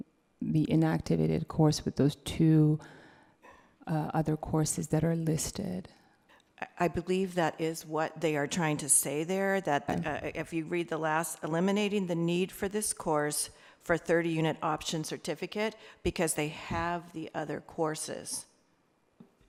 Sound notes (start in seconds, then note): none